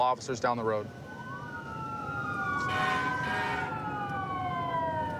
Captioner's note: emt sirens blaring